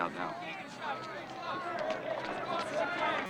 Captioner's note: crowd chattering